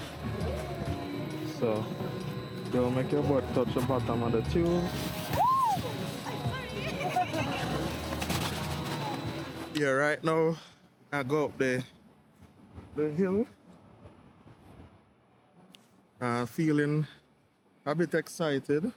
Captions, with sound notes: So, don't make your butt touch the bottom of the tube. Woo, I'm sorry. (laughs) Yeah, right now, i'm going up... ...the hill. Feeling a bit excited.